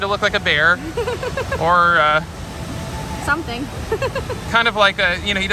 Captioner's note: laughs